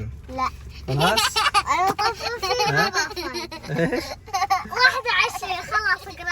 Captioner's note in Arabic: ضحك